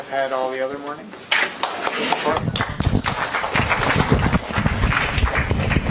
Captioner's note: applause